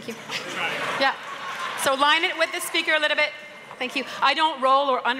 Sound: laughter

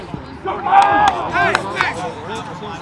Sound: shouting And Clapping

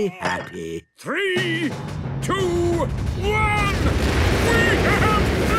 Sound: rockets igniting

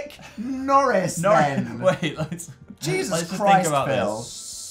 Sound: laughs

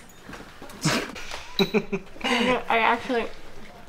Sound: giggling

